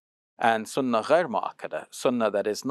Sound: speaks in foreign language

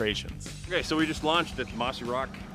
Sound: boat engine running

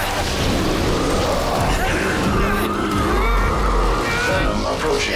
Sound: grunting; roars

